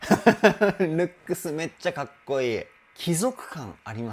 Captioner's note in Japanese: 笑い